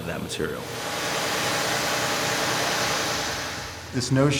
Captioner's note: water cutting